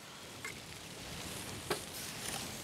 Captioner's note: Windrauschen